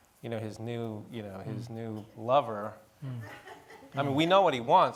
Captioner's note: audience laughing